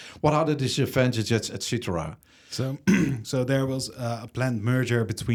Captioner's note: clears throat